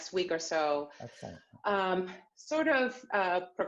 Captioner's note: murmurs